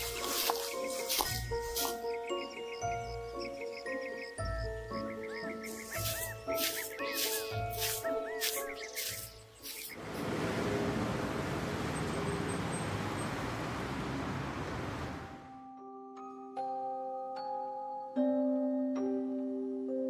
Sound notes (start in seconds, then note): 0.0 leaves crunching; 4.4 mysterious music continues; 5.6 leaves crunching; 10.6 traffic humming; 16.7 mysterious music